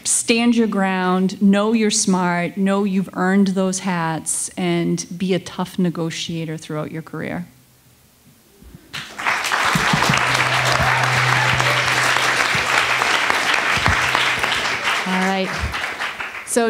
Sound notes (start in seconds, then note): 8.9 attendees applauding